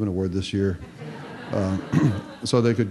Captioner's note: laughter